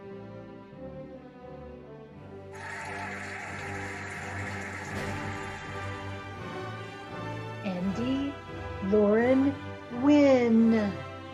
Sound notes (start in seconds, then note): 2.5 cheering and applauding